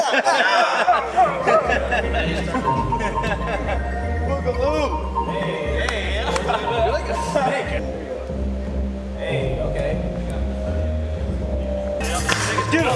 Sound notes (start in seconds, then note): 0.0 laughing